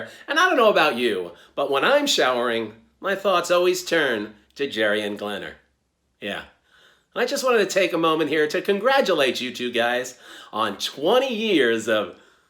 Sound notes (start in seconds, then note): none